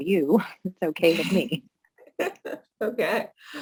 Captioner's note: laughter